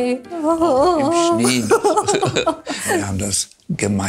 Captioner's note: laughs